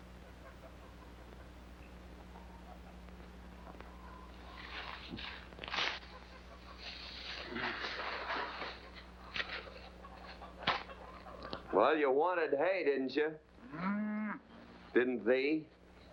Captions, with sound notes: (hay rustling) - Well, you wanted hay, didn't you? (cow moos) Didn't thee?